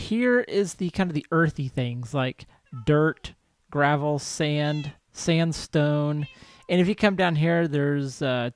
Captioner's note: cat meows